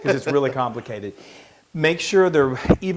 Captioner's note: laugh